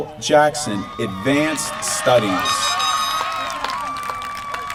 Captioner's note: applause